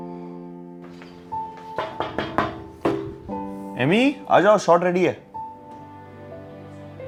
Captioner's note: knocking on door